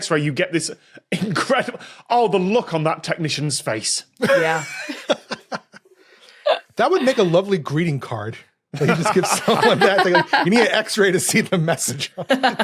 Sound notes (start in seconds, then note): 4.2 giggle; 12.1 chuckles